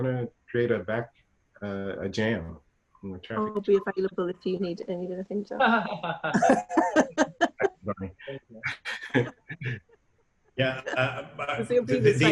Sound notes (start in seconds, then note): 2.0 laughing